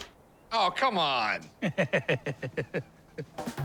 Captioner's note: chuckles